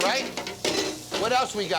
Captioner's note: metal clanging